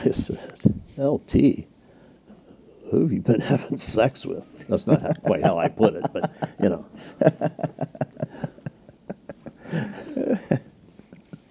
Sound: laughter

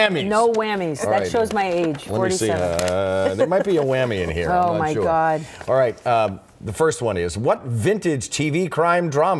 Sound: laughter

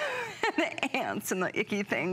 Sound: laughter

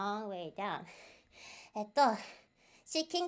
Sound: breathing heavily, got too excited

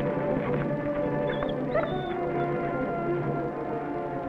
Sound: whimpers

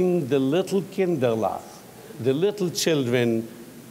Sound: speaking in foreign language

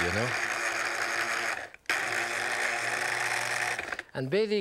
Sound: machine whirs

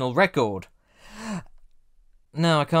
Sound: breaths in

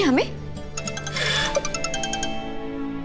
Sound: mobile phone ringing

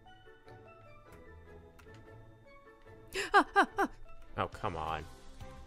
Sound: spook noises

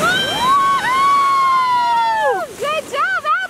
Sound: they cheer

